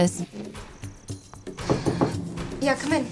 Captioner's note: knocking